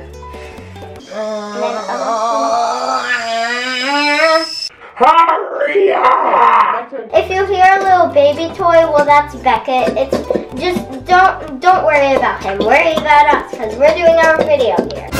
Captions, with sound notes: [steam kettle noise] hurry up it you hear little baby toys well that's Beckett it's just don't don't worry about him worry about us cause we're doing our video here